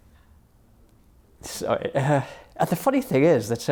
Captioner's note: laughs